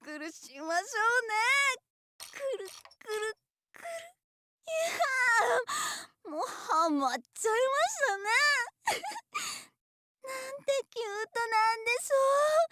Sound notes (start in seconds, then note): 8.9 maniacal giggle